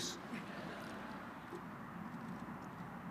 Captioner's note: laughter